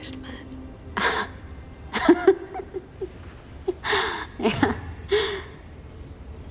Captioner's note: Janine laughs